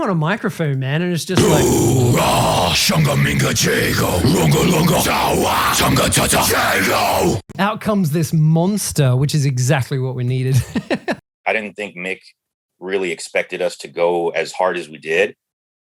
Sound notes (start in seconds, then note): 3.2 throat vocalizing; 10.5 laughing